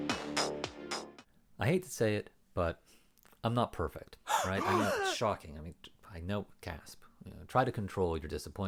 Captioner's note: gasps